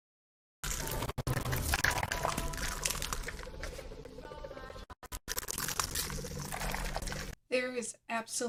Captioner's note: bad crackling sound effects